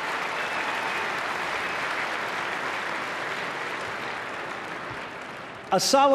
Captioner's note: applause